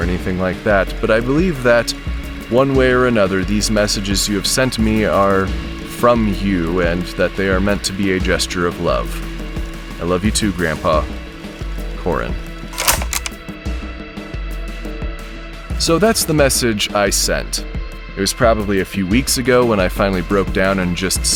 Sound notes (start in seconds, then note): 12.5 tape stops